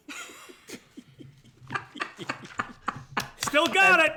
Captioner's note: laughter